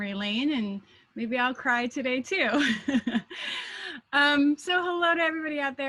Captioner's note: laughing